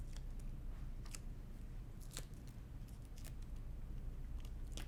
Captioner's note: paper rustles